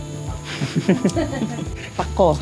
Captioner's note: giggles